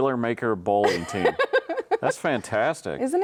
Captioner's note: laughing